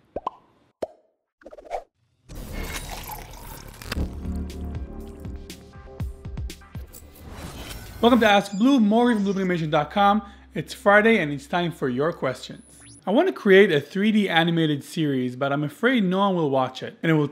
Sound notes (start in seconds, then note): 0.1 popping sound; 2.4 coffee pouring; 3.1 gentle music